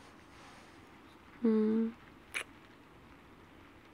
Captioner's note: kiss